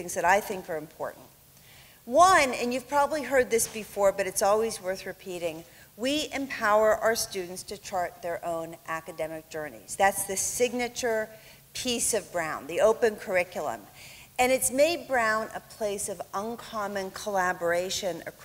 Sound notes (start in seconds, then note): none